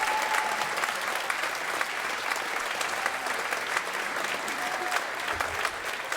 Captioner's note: applause